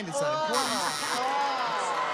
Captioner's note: wrong buzzer